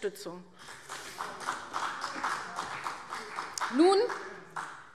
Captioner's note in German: Beifall CDU und vereinzelt BÜNDNIS 90/DIE GRÜNEN